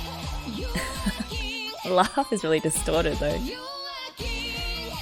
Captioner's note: laughs